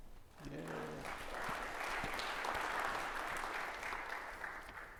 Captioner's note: audience applauding